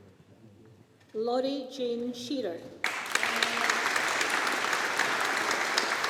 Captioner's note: audience applauding